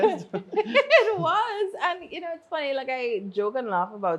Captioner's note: laughs